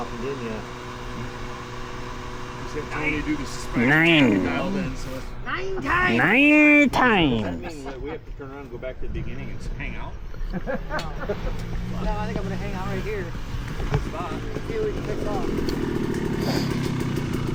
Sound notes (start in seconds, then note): 15.1 laughing